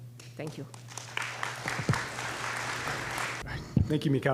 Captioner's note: applause